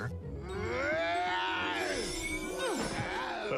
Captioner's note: growling